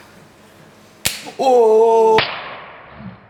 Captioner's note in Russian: Звук пощечины